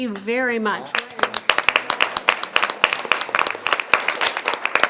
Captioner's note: members applauding